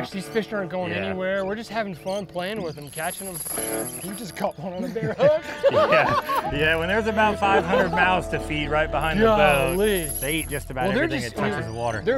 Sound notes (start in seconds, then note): 4.5 both laugh